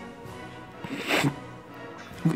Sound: sobs

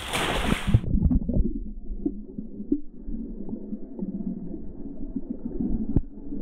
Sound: underwater sounds

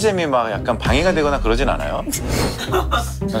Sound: laughs

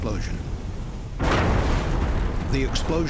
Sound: sound of explosion

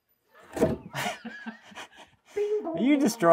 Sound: both laugh

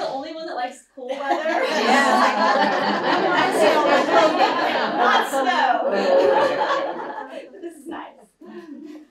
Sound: laughter

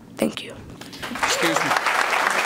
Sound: applause

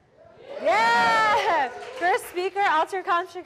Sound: audience yells, applauds

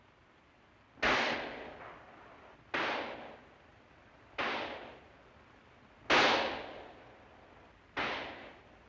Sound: gunshots

